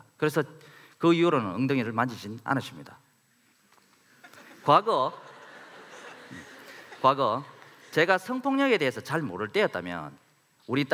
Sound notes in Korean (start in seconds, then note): 4.2 웃음